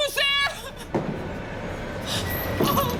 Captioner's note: heavy footsteps